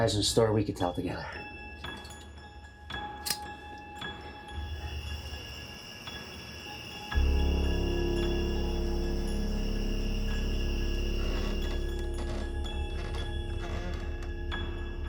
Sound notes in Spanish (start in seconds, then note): 6.4 insectos chirriando; 7.1 música siniestra; 11.1 tablas del suelo crujiendo